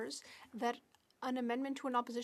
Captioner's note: speaking French